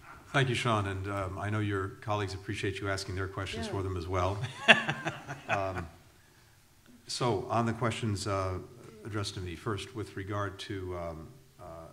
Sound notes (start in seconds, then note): 4.3 laughter